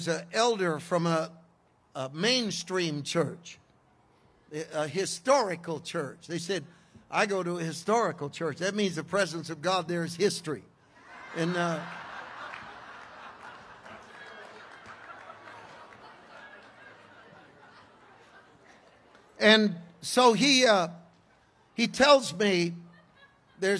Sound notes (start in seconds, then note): 10.9 congregation laughs